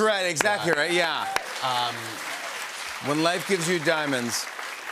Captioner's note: cheers and applause